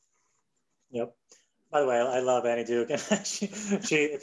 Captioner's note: laughing